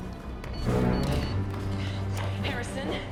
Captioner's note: suspenseful music; phone beeps